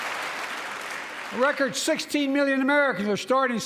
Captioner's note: applause